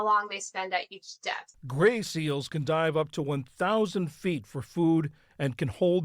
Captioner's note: voice-over